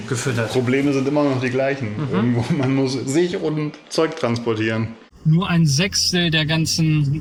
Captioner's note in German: gelächter